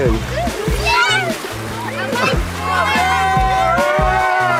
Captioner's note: children screaming